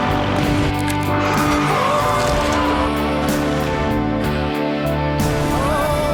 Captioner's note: tyres screech